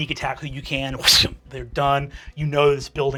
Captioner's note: whooshing